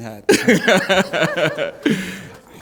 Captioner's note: laughter